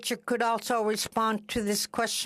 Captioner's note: speaking Indigenous Language